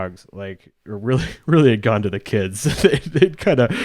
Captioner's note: laughs